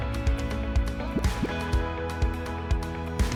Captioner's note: graphic pops; upbeat music